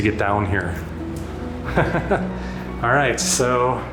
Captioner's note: laughter